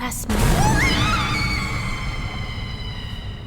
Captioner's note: screams; eerie music